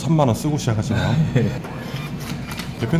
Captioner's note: laughs